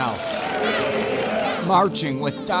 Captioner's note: people shouting